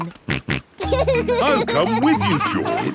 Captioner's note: snorts and laughs